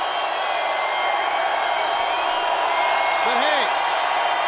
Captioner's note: crowd cheering